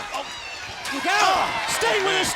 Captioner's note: audience cheering